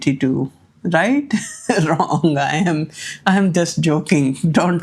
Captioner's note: laughs